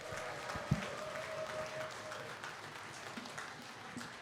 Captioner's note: cheering, applause